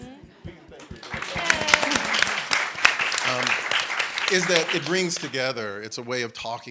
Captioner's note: applause